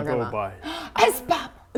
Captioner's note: gasp